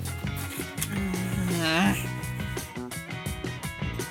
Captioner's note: grunts